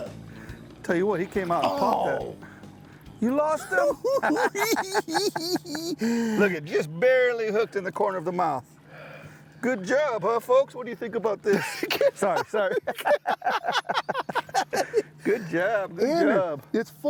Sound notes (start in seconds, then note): 3.7 both chuckling; 13.0 both laughing